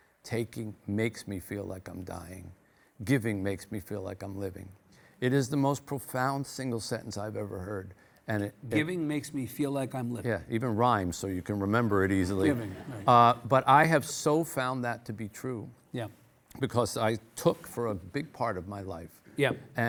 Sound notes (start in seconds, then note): 12.4 audience laughing; 12.4 laughs